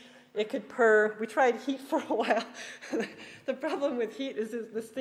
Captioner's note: laughs